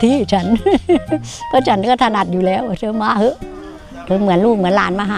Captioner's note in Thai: เสียงหัวเราะ